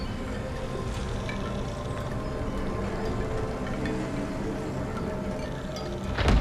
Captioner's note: bones clanging